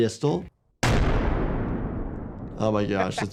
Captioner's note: explosion banging